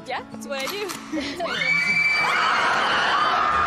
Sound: screaming

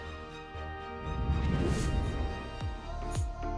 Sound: whoosh

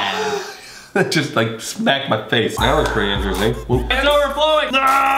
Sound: laughs

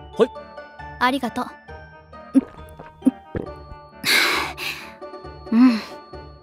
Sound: gulp gulp

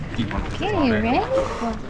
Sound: crowd chattering

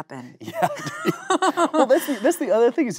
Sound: both laughing

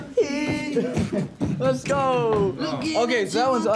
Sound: beatboxing

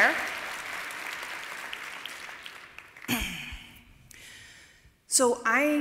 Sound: applause

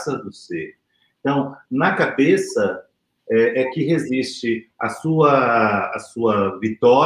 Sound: speaks portuguese

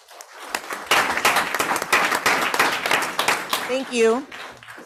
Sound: group applauds

